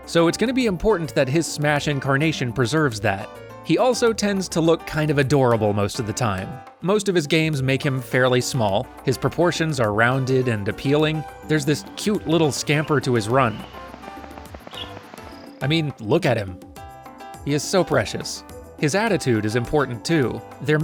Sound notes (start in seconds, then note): 14.0 pitter-patter footsteps